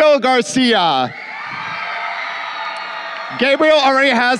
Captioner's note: crowd cheering